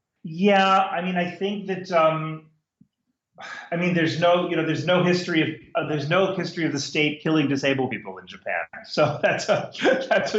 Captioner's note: laughs